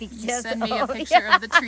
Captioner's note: laughing